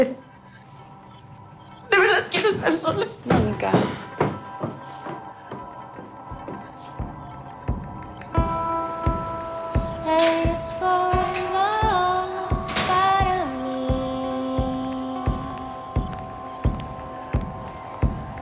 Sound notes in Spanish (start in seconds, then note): 0.7 Sollozos